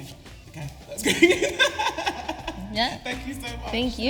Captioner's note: laughing